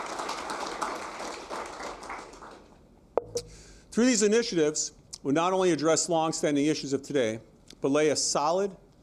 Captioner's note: applause